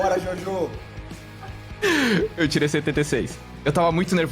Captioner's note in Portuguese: risada